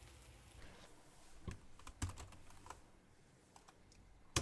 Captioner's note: keys clicking